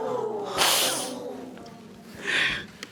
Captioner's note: audience exclaims; sobs